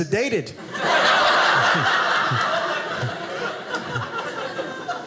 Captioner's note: audience laughing